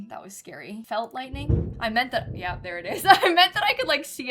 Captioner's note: thunder